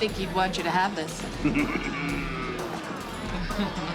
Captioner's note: chuckles